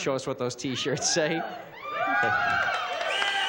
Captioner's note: cheering